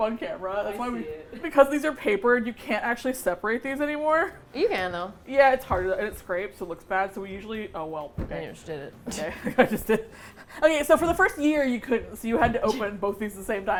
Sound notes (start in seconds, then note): 9.2 both laugh